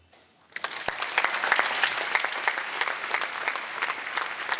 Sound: applause

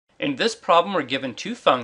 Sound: voiceover

